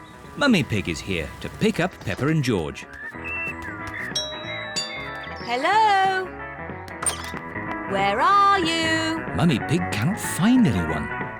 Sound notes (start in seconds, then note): 4.1 doorbell rings